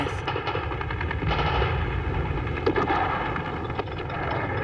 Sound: guns firing

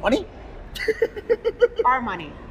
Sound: laughter

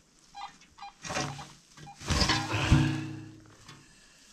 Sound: lid clanging

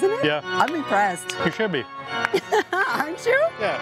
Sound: laughs

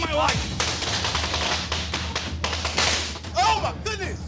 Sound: fireworks popping

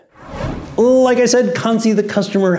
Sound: graphics whooshing

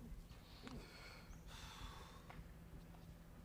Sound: exhales

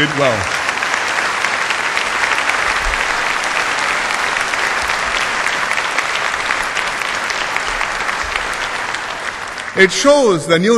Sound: applause

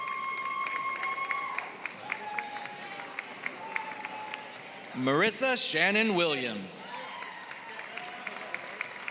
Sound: applause

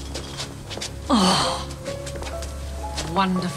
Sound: groans

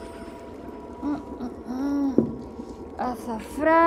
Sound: crackling fire

